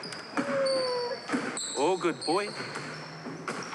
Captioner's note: weeps